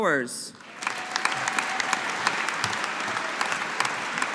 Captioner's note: audience applauding